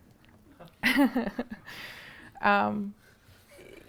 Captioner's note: chuckling